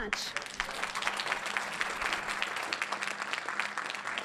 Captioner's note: applause